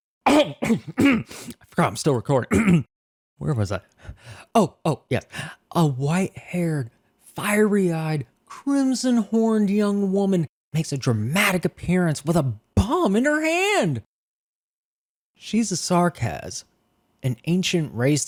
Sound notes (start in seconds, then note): 0.2 coughs abruptly; 2.5 clears throat